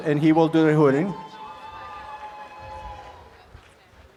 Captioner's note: applause and cheering